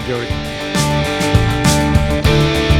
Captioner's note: bombs whirring